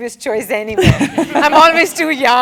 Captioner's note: laugh